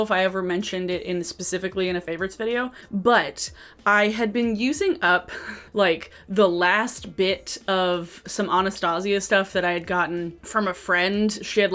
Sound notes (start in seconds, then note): 5.2 chuckles